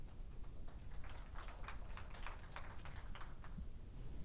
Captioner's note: audience applauds